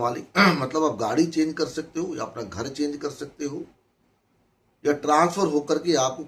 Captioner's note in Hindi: गला साफ़ करने की आवाज़